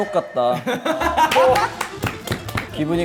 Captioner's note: laughing